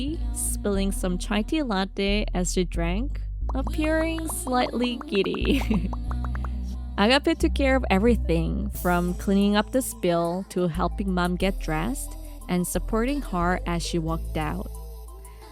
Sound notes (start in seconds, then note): 5.4 haha